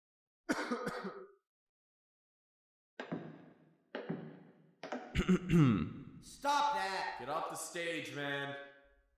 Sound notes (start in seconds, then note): 0.5 coughing; 4.0 footsteps; 5.1 clearing throat